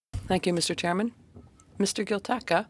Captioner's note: speaking French